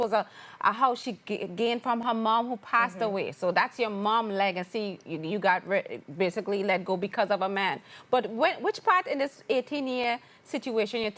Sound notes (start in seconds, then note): none